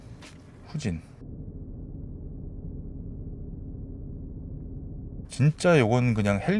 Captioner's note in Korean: 실제 엔진 소리